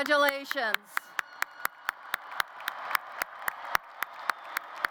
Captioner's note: applause